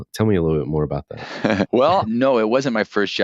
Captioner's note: laughs